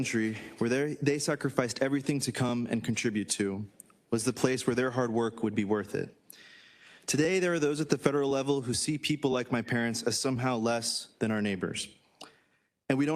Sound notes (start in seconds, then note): none